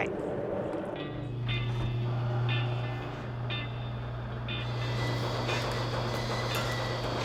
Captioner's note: plane engine roaring; gentle music